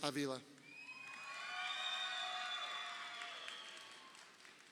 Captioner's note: crowd cheering